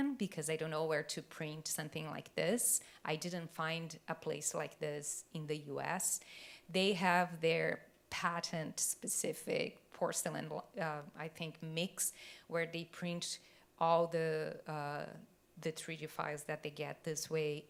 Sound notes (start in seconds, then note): none